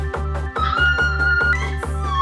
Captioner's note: screaming kettle noises